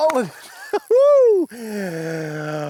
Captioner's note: exclaims; gasps; in baby voice